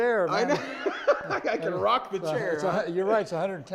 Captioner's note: laughs